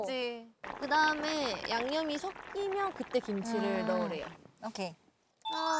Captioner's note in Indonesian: Menggerutu